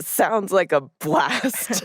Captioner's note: laughs